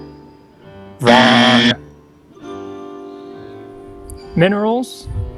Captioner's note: loud buzzer